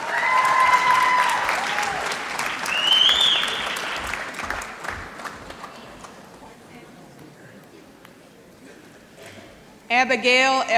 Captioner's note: applause